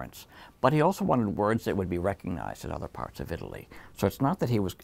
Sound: none

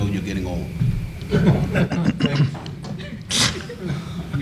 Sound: panel chuckles

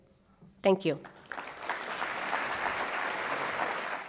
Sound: applause

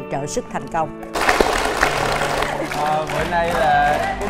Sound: applause

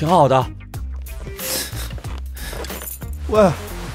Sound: scoffs

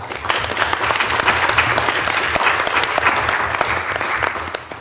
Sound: audience clapping

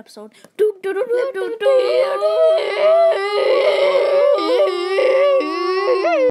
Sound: deafening battle cries of justice

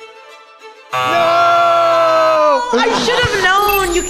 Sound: buzzer

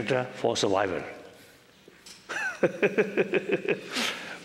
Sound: laughter

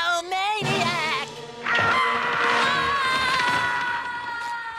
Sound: screaming

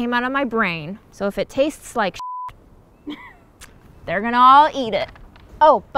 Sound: beep

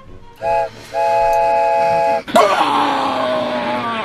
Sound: train whistle; roars

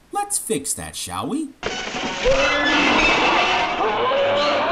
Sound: monster roars

